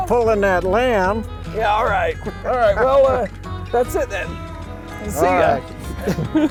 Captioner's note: laughter